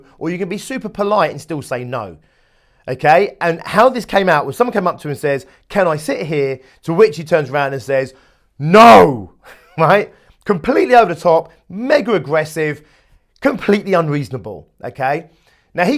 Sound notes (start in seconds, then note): 9.4 chuckles